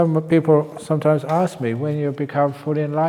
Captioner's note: none